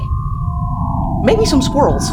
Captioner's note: time travel sounds